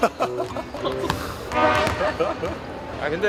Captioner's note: he just laughs